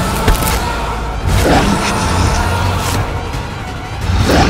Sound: growling

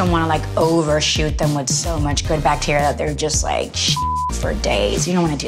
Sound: beep

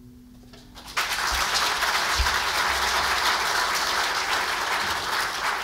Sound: audience applauds

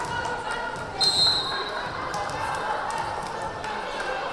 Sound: whistle blaring

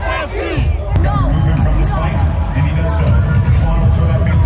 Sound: people clamoring

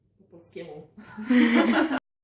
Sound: laughter

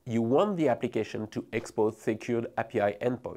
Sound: text whooshing

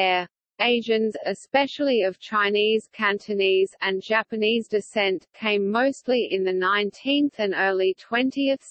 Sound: Cantonese

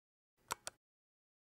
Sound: click

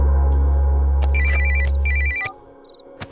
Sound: phone ringing

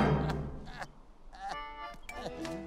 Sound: crying

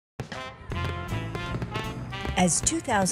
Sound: fireworks popping; upbeat music

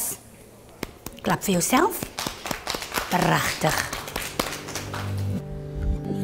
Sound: clapping

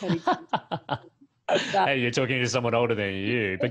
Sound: laughs

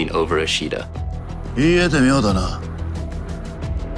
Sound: speaking in japanese

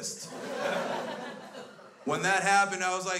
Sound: crowd laughs

